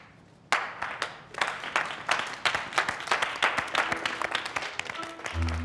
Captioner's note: Eugene begins applauding; scattered applause